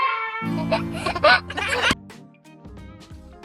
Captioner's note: baby laughing; lighthearted music